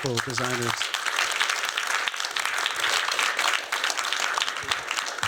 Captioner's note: applause